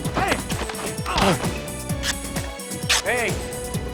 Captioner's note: man grunting